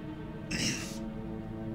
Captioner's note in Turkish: Boğaz temizleme sesi